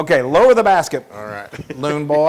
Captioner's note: laugh